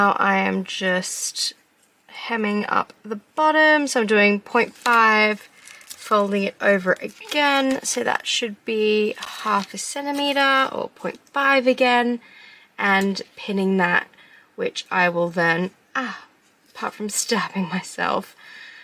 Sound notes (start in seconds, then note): none